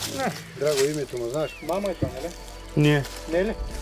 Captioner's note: drivers chattering